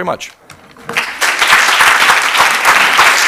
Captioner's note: applause